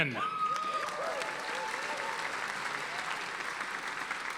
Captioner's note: audience applauding